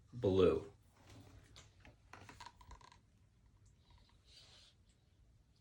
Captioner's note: book squeaking